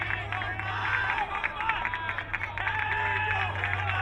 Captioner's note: crowd cheering